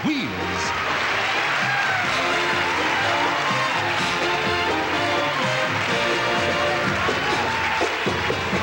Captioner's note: band finishes as cheering intensifies